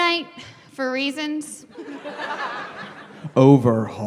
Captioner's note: laughter